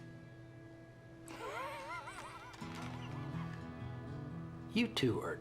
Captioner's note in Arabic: ضحك